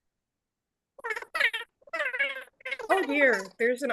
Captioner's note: voice garbles